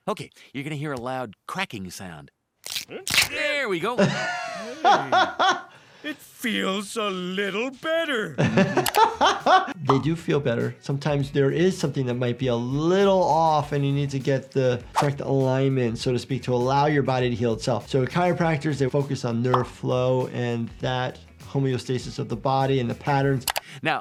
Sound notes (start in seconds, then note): 2.9 laughing; 8.2 laughing